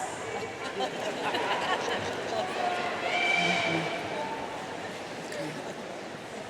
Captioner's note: audience talking off microphone